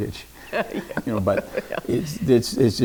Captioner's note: chuckles